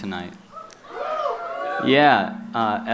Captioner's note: cheering